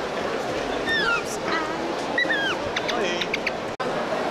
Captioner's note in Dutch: ingeslikt fluitje-achtige geluiden